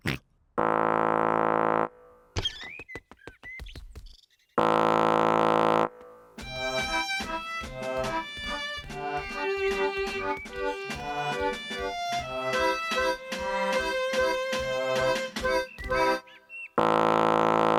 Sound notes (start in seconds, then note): 0.6 horn blares; 4.6 horn blares; 16.8 horn blares